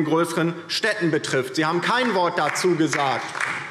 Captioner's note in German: Beifall DIE LINKE